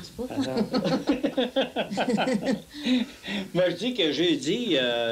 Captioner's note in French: rires